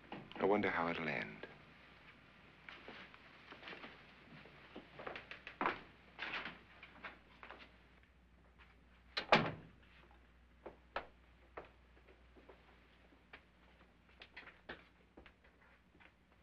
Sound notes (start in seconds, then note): 6.1 door opens; 9.2 door closes